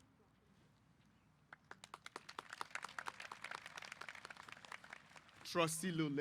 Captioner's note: applause